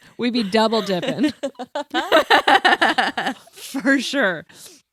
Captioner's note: everyone laughs